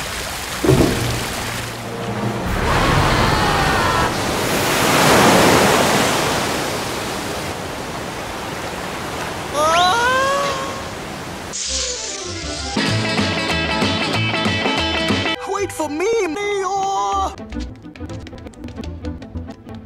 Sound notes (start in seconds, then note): 0.6 mechanical noises; 2.2 flood sounds; 4.2 waterfall splash; 9.5 Pooh nervous yelling; 17.2 frantic Stepping